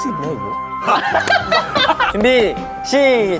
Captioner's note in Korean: 까르륵